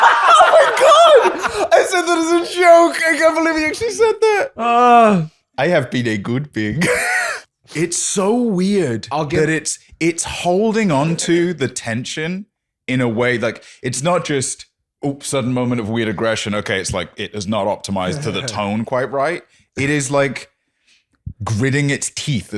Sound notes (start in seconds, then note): 6.8 laughs